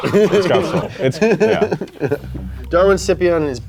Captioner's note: laughs